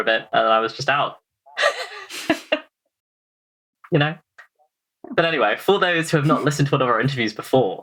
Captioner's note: laughs